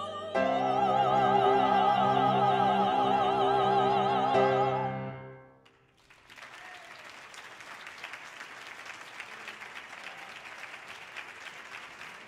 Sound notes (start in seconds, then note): 5.6 audience applauding; 6.2 audience cheering